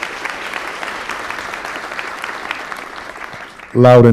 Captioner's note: applause